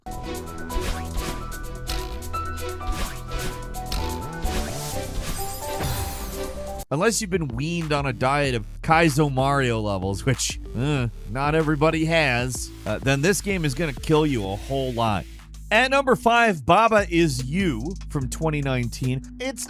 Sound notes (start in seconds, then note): 0.0 bright upbeat music; 0.1 character whooshing; 5.8 explosion blasts